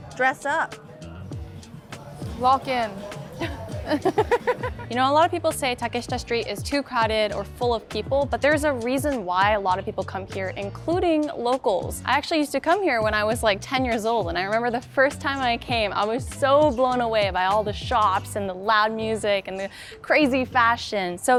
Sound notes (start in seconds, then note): 3.3 both laughing